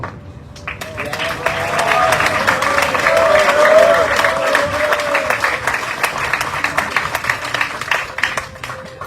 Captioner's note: audience cheering, applauding